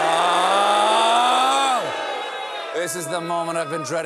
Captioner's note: booing